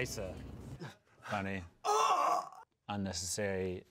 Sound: groans

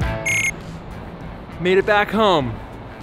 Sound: beeping

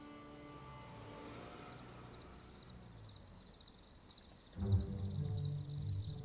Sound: crickets chirping

